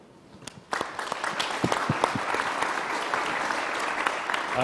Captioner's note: crowd applauding